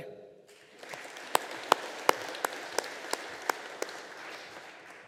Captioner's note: audience applauding